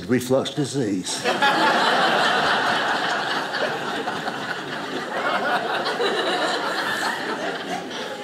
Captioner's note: audience laughing